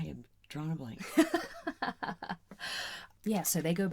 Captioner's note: laughing at us forgetting the story